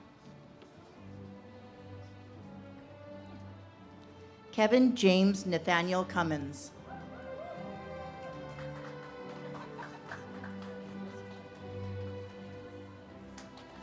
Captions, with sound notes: Kevin James Nathaniel Cummins. (audience cheers and claps)